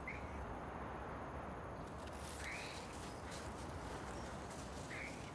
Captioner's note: birds chirping